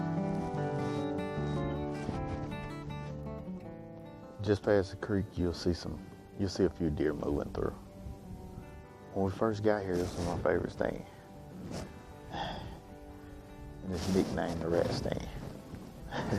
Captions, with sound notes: Just past the creek you'll see a few deer moving through. When we first got here, this was one of my favorite stands. (sighs) And it's nicknamed the "Rat stand."